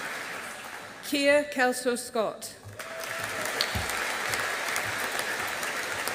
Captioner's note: audience applauding